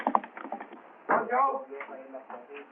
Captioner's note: chattering